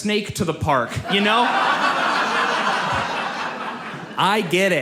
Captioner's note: audience laughs